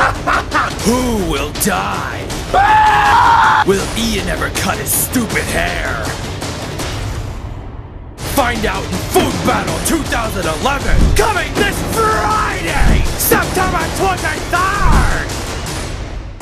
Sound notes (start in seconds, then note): 2.5 both scream